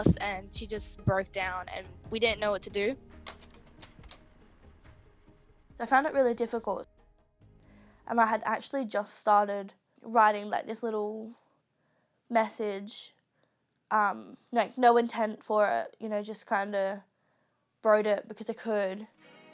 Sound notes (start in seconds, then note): 3.2 clicking